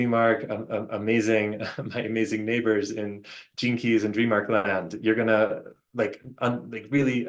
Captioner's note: chuckles